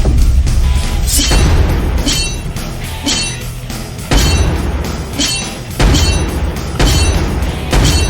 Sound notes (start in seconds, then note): 1.1 metal clanging; 1.3 explosions booming